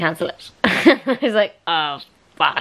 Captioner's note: laughs